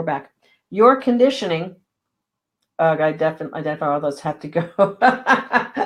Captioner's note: laughing